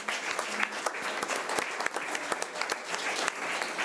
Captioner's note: audience applause